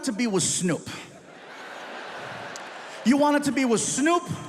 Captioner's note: audience laughs